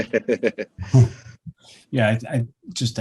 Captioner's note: laughing